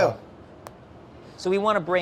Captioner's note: snapping